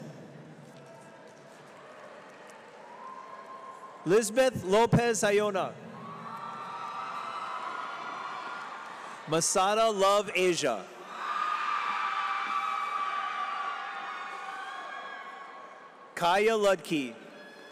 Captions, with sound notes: Lizbeth Lopez Ayona. Masada Love-Asia. (audience cheers) Kaia Ludtke.